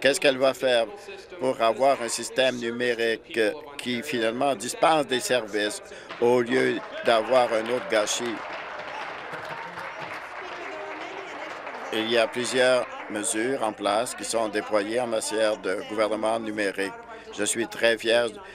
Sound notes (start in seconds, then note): 12.0 applause